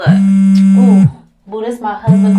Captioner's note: phone buzzes